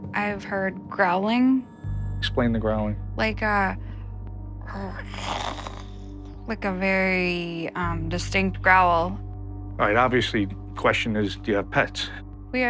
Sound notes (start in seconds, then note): 5.0 growls